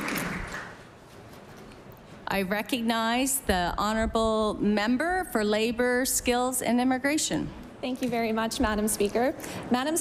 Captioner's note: applause